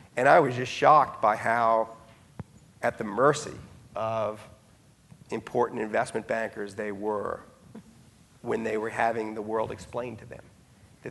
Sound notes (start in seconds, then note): none